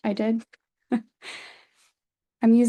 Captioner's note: chuckles